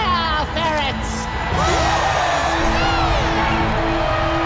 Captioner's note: cheering